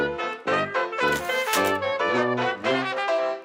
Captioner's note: sfx: typewriter carriage return